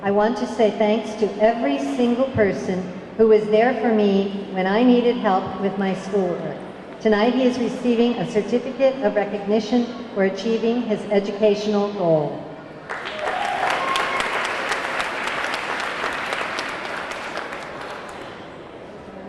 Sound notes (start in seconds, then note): 12.8 audience clapping; 13.0 audience cheering